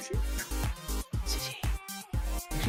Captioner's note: whispers